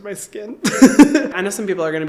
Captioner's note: chuckling